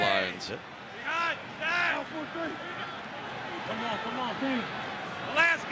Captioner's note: crowd cheering